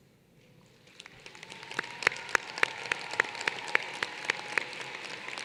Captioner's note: applause